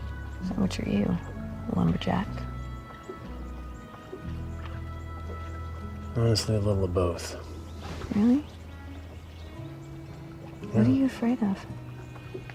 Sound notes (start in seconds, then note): none